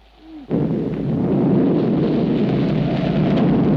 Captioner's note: thunder cracks